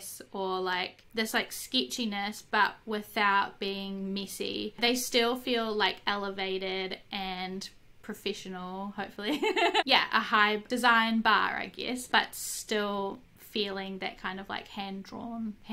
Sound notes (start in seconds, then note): 9.3 laughs